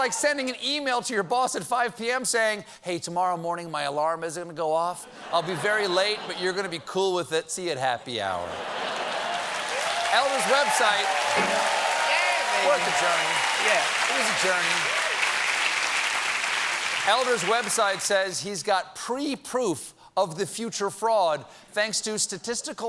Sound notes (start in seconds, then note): 5.0 laughter; 8.8 applause